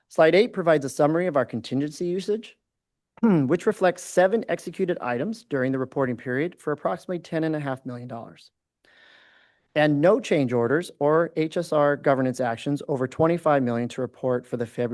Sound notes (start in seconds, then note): 3.2 clears throat